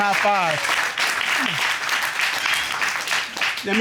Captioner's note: audience applaud